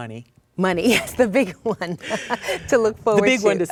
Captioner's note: laugh